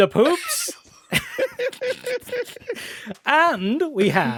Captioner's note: laughter